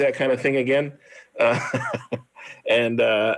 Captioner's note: laughs